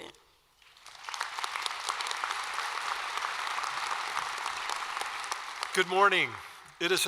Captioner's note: applause